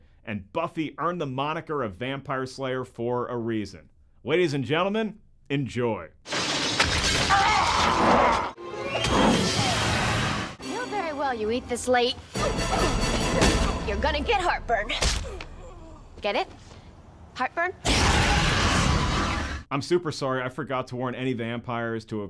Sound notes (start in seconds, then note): 6.3 glass crashing; 7.2 screaming